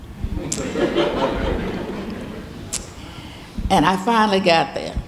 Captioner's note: audience laughing